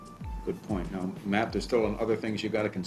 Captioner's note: voiceover